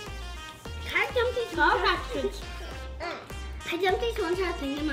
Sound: chattering together

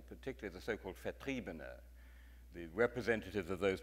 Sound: speaks in foreign language

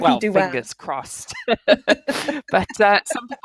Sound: laughing

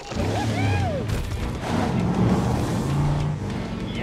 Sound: revving

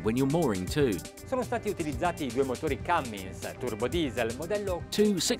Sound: speaking in foreign language

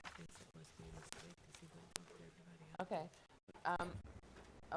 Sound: indistinct conversation

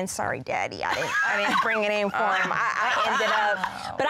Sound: laughing

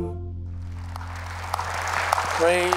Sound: applause

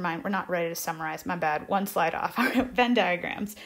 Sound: chuckles

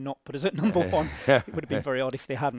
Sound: they both laugh

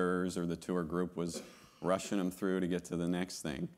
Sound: attendee coughing

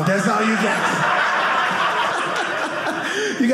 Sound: audience laughing

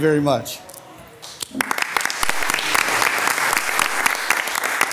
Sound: all loudly applauding

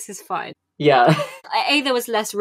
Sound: laughing

